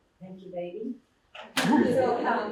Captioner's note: laughter